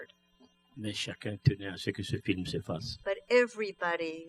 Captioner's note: speaking french